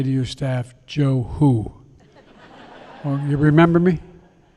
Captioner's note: laughter